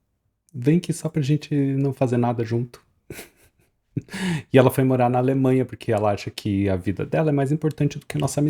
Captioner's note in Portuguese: risadas